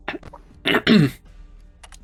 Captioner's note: clears throat